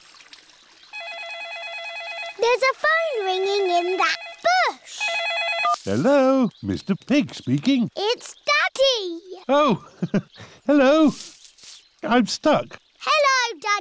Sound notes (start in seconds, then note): 1.7 ringing